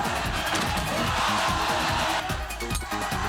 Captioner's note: groaning